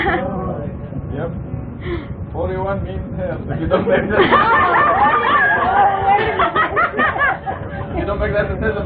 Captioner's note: intense laughter